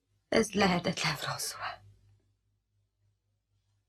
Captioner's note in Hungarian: sírósan